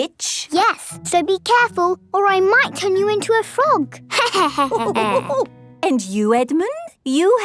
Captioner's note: laughter